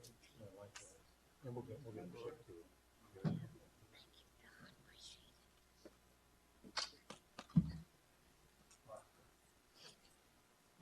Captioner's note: applause